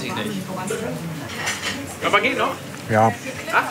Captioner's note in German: Stimmengewirr im Hintergrund